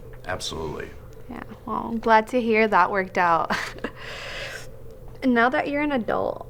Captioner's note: chuckling